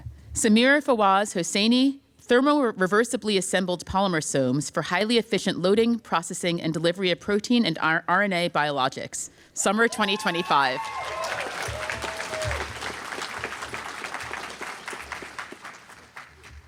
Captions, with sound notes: Samir Fawaz Hossainy Thermoreversibly assembled polymersomes for highly efficient loading, processing and delivery of protein and RNA biologics," summer 2025. [APPLAUSE]